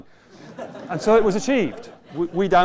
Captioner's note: laughter